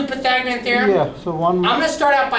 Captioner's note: voiceover